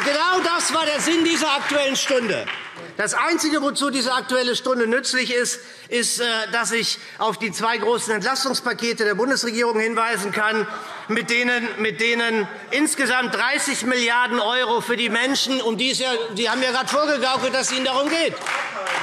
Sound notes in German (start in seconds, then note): 10.5 Lachen AfD; 18.7 Beifall SPD und Freie Demokraten